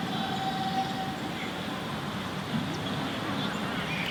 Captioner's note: birds chirping